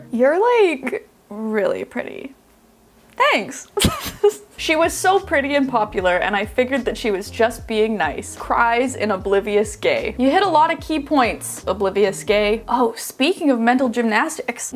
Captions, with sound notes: "You're like really pretty." "Thanks." (laughing) "She was so pretty and popular, and I figured that she was just being nice. Cries in oblivious gay." You hit a lot of key points, oblivious gay. Oh, speaking of mental gymnastics.